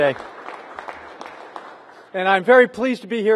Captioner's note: applause